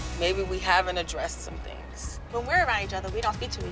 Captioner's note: none